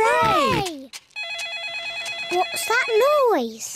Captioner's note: phone rings